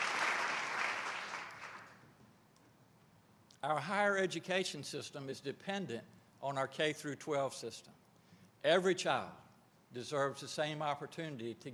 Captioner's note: applause